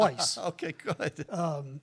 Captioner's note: laughs